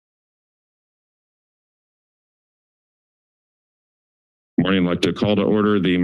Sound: silence

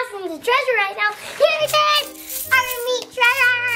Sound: metal clinking

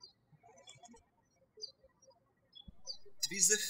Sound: birds chirping

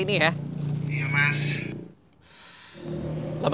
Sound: in pain

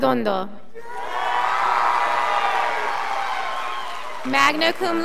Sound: scholars applauding

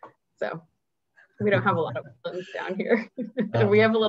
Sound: giggles

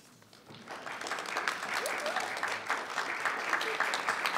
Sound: all applauding

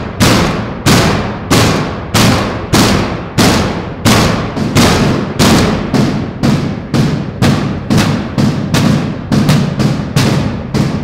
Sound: inmates banging

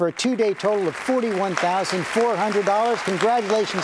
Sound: audience applauding

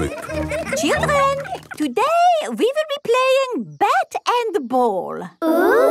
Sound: children laughing

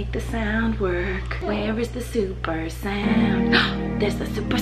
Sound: gasps

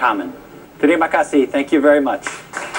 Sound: non-english

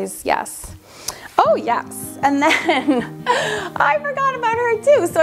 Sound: laughs

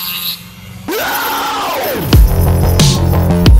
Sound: screams

